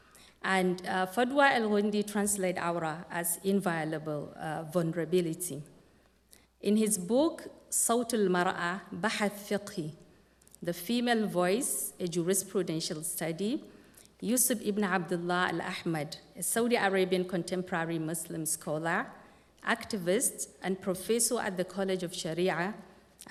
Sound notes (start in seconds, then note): 7.6 non-english speech